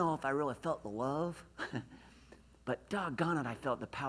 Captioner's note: laughs